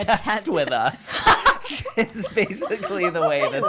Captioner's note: laugh together